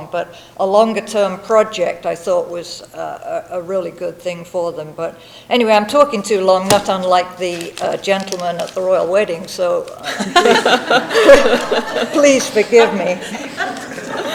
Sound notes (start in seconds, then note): 10.0 people laughing